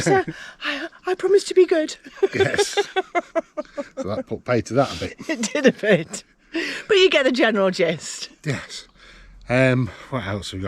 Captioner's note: laughter